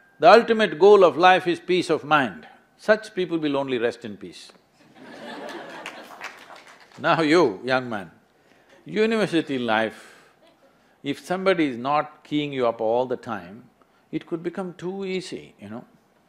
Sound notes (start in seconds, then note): 4.9 laughter/Applause; 6.8 laughs